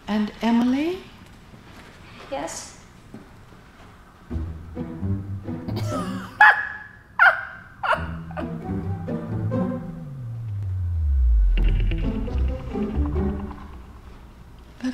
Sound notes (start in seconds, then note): 4.3 Laverne snickers; 4.3 playful music; 11.7 playful music continues